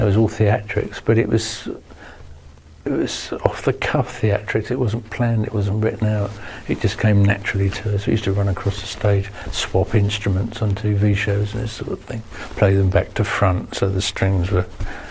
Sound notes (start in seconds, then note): none